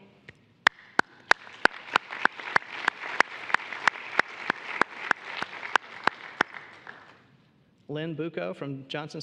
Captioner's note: applause